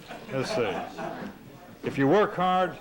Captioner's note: laughter